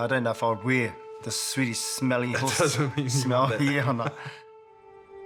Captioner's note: laughs